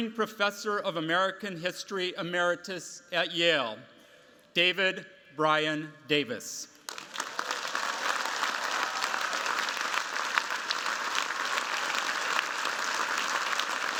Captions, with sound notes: Professor of American History Emeritus at Yale, David Brion Davis. [CHEERS, APPLAUSE]